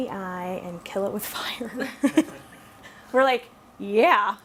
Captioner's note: laughs